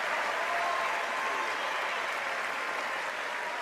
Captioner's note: applause